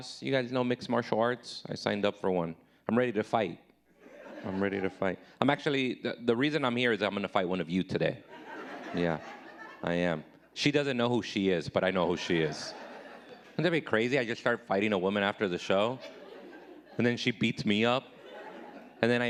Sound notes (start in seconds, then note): 8.3 audience laughing